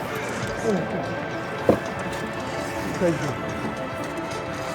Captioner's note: none